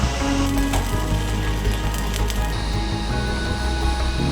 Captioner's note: reflective music; electricity fizzing; reflective music